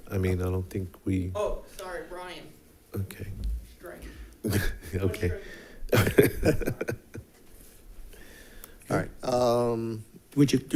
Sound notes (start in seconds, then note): 5.9 laughing